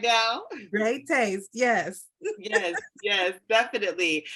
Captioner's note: laughs